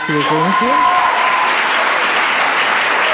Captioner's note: applause